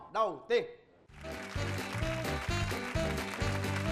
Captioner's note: applause